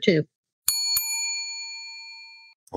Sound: bell ringing

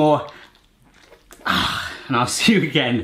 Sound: grunts

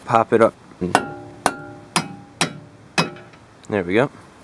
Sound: metallic Hammering Noise

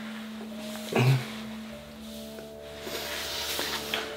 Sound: Derek gasps

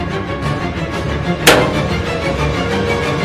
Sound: clank

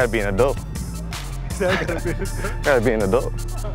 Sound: laughter

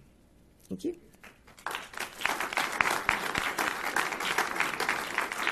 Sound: audience applauding

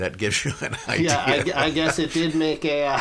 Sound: laughs

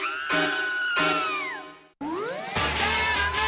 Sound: scream

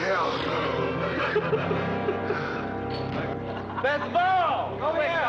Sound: Sam laughing

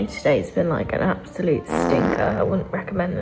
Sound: fart noise

